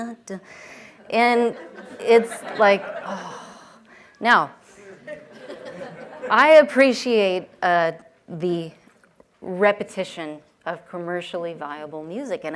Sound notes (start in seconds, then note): 3.0 sighs